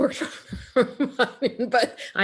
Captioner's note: laughing